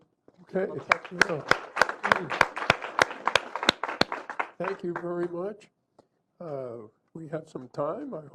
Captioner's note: applause